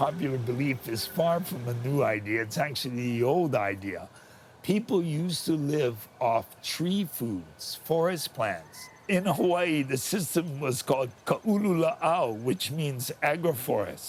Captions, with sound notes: is far from a new idea; it's actually the old idea. People used to live off tree foods, forest plants. In Hawaii the system was called (speaking Hawaiian) which means "agroforest".